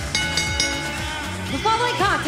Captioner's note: bell ringing